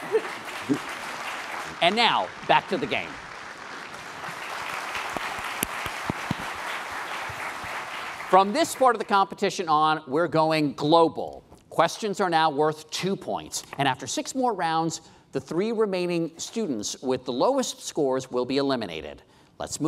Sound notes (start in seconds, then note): 4.3 applause